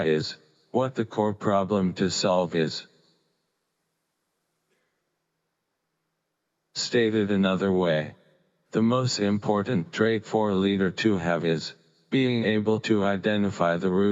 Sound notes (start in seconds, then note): none